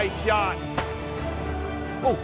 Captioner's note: gun shot